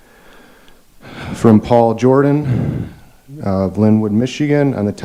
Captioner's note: sighs